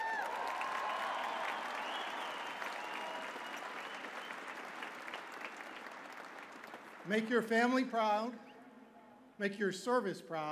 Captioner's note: cheers and applause